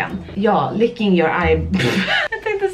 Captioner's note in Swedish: skratt